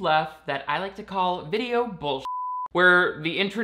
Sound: beep

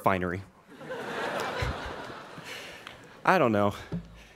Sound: students laughing

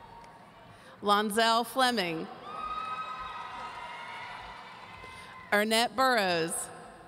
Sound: audience cheering; audience cheering

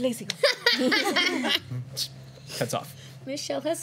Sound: laughter

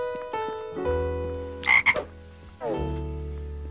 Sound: ribbitting

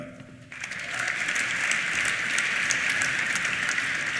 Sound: applause; cheers

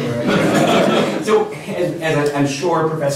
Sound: laughter

